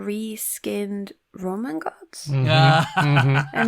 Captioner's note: laughs